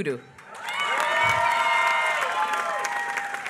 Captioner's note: applause